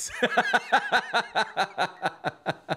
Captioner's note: laughter